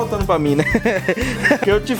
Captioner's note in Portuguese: risos